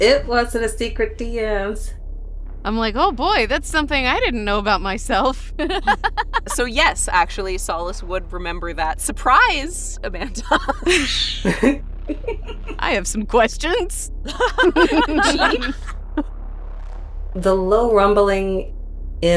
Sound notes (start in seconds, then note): 10.4 chuckles; 14.2 laughs